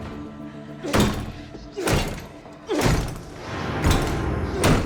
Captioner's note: Paul groans; door lock clanging; dark eerie music